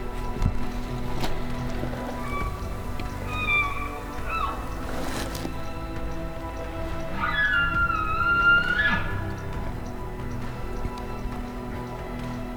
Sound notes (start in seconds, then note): 2.1 elk bugling; 7.1 caller bugling